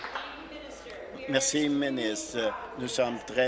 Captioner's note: applause